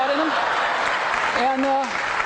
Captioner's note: audience laughing; audience applauding